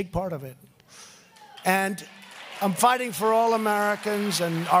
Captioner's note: applause